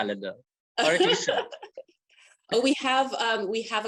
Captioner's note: laughing